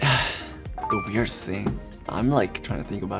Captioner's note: beeps